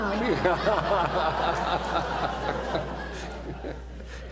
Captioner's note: laughter